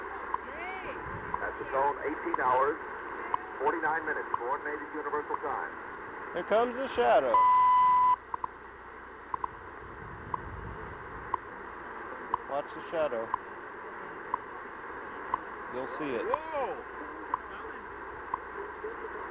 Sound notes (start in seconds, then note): 7.3 beep, ticks